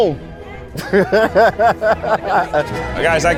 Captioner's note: laughs